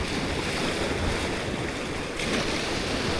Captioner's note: wind blowing